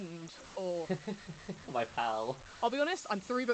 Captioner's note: laughs